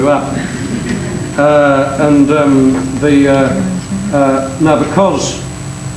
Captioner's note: audience laughing